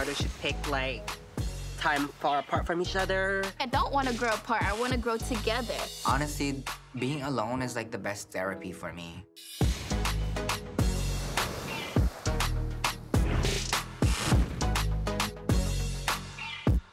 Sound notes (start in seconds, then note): 9.8 upbeat music; 11.1 waves crashing